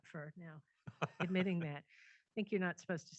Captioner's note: laughs